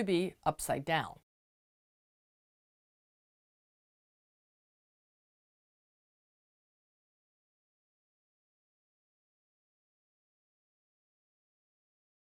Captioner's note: no Sound Present